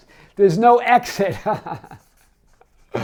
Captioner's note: laughs